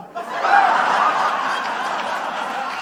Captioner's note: laughter